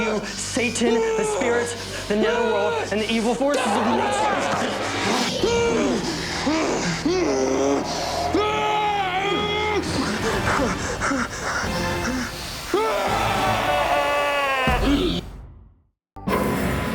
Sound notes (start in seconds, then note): 3.1 growling and screaming; 7.0 growling